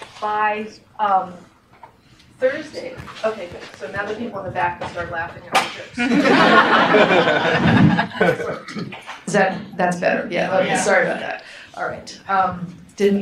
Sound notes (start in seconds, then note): 6.0 audience laughs; 10.5 audience murmuring agreement